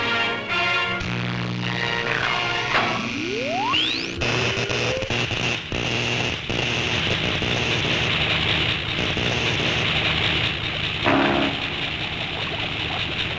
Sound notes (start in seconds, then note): 1.1 electricity buzzing; 4.3 static buzzing